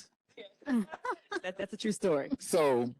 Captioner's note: panelists laugh